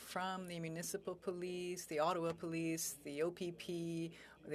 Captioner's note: speaking French